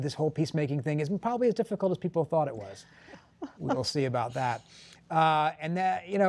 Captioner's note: laughter